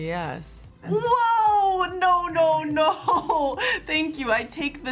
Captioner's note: laughs